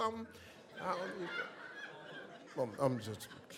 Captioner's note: audience laughs